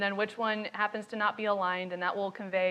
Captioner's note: speaks faintly